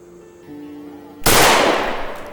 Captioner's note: gunshot